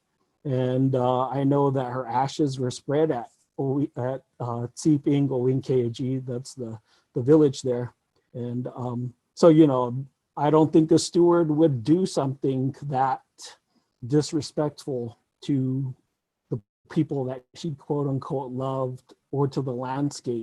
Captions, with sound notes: And I know that her ashes were spread at (speaking in Tewa), that's the village there. And so, you know, I don't think the steward would do something that disrespectful to the people that she "loved" or to the landscape.